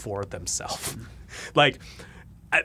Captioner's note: laughs